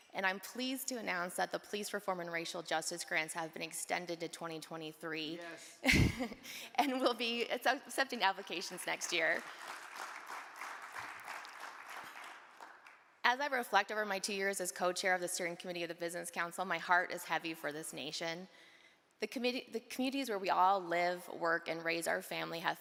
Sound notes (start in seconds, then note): 5.8 chuckles; 8.4 audience applaud